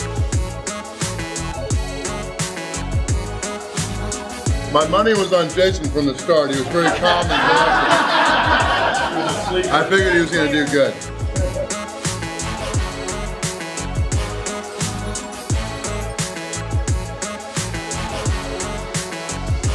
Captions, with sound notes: My money was on Jason from the start. He was very calm and collected (laughter) I figured he was gonna do good. (soft music)